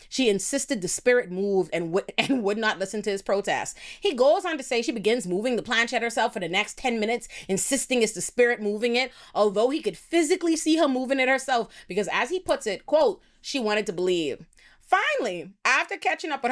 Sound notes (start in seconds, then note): none